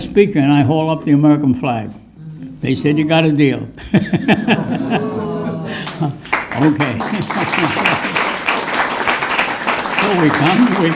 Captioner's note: chuckles and scattered applause